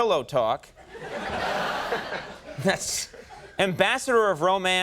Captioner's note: audience laughing